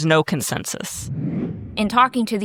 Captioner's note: graphics whooshing